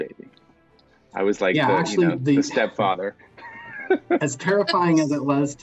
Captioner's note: laughs